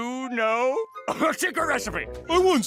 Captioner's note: coughs